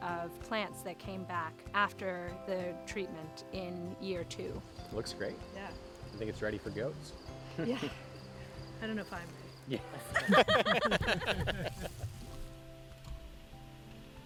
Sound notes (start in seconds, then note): 9.8 chuckling